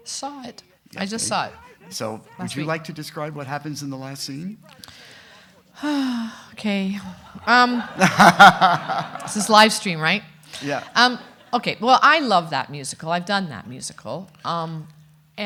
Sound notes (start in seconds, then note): 4.7 sighs; 7.0 everyone laughing